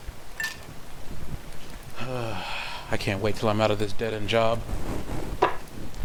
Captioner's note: sigh